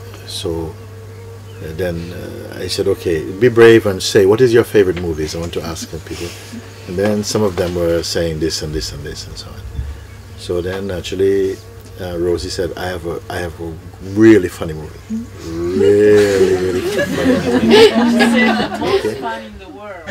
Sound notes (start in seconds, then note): 16.0 laughter